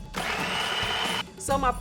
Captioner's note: food processor running